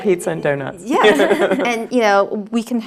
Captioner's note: laugh